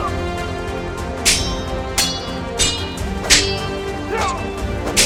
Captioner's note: dramatic music; swords clanking; dramatic music